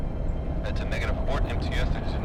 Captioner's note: Joe Over Radio